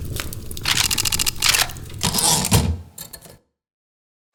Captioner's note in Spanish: Ruidos mecánicos y retorno de carro de una máquina de escribir